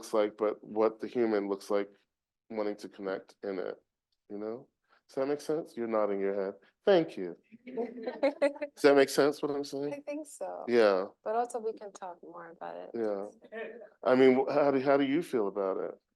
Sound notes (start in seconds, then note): 7.9 audience laughing